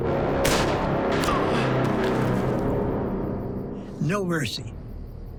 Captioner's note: grunts